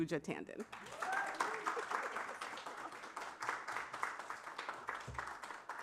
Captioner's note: applause